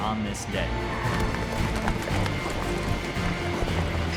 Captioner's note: hoofbeats